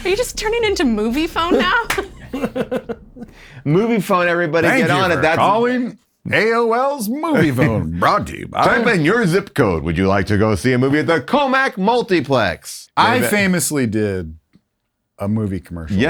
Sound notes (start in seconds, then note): 2.1 laughs